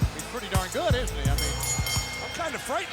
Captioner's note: crowd cheering; bell dinging